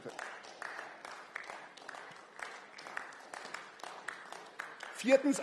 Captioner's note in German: Beifall